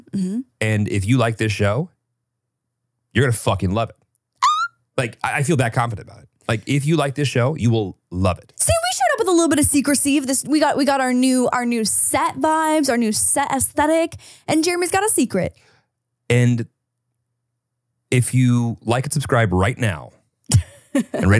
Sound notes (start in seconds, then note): 4.4 screams; 20.5 laughs